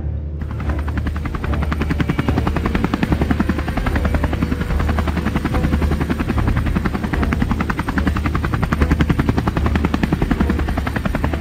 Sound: helicopter sounds

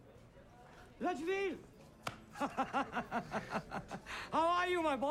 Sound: laughing

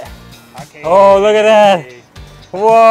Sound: speaks in foreign language

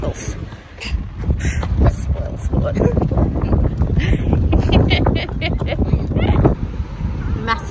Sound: both chuckle

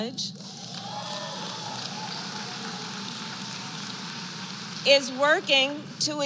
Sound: applause

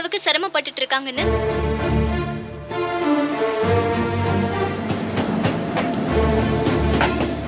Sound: umbrella falling in water & Thunders sound

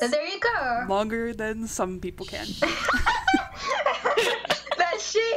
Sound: laughter ensues

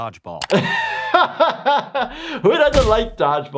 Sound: laughs

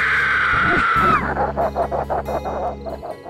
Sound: deep Laughing

